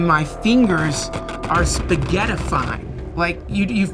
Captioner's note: stretching balloon squeaks